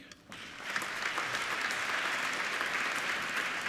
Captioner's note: applauding